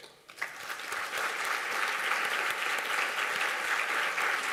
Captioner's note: applause